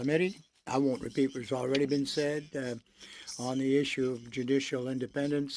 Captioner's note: speaking French